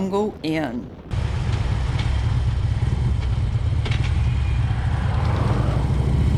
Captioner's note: motorcycle engines revving